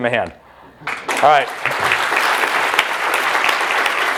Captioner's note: applause